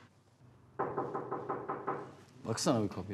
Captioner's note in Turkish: Kapı vurulma sesi